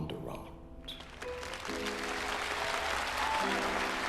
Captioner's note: audience applauding